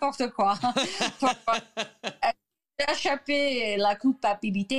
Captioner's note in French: rire